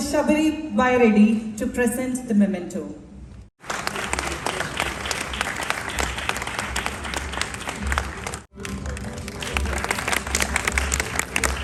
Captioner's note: cheers